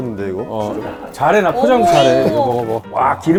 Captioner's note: laughing